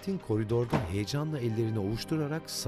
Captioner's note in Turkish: Kapı kapanma sesi